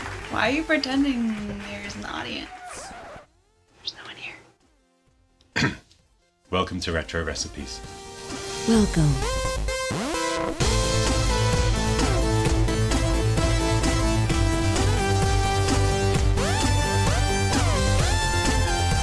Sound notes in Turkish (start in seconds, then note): 3.3 fısıldar; 5.5 boğazı temizler